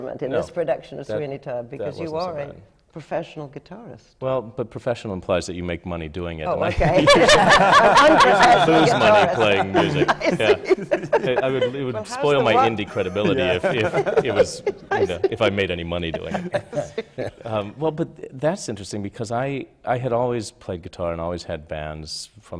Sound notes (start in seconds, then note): 6.6 laughter